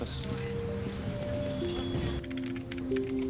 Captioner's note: typing